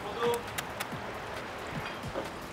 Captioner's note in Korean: 쪽쪽쪽